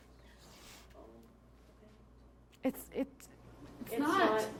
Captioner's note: sounding doubtful